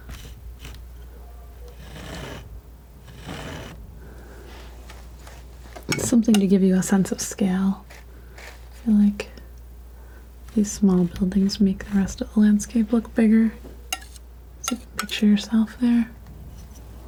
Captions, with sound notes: (scratching) Something to give you a sense of scale. I feel like these small buildings make the rest of the landscape look bigger. So you can picture yourself there.